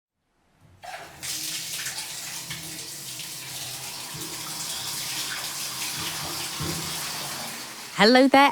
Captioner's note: sound of water running out of taps